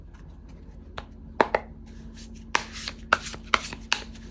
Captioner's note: drawing cards